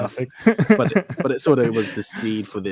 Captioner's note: group laughs